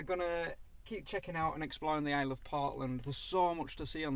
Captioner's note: wind